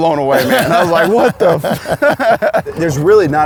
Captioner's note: laughs